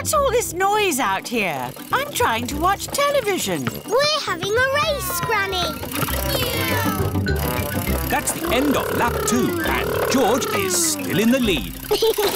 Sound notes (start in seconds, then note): 6.4 kids imitating vehicle sounds